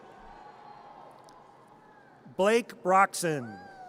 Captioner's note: audience cheers; audience cheers